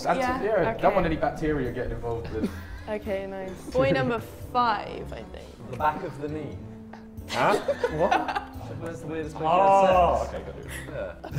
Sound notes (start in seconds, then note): 7.2 laughs